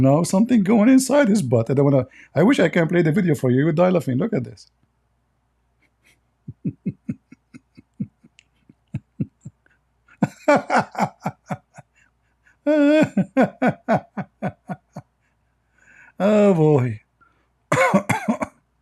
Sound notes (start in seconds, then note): 6.4 Ketawa